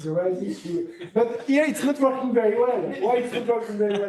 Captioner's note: laughter